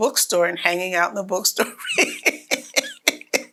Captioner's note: laughs